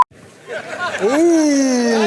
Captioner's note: laughing